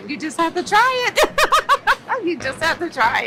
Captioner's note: laughs